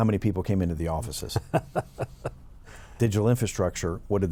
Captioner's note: laughing